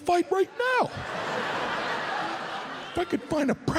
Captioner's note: audience laughs